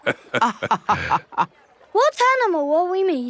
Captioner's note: both laughing